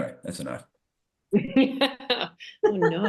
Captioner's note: chuckles